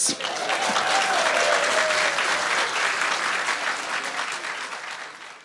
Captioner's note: audience cheering